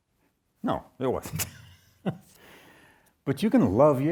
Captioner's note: chuckles